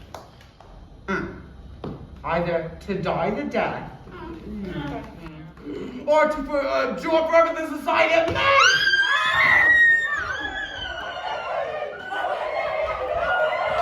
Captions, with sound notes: Hmm, either to die the death. (group mutters) Or to abjure forever the society of men. (Hermia screams) (crowd shouting)